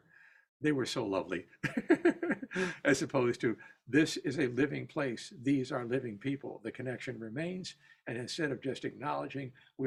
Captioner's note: laughter